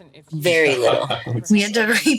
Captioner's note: laughs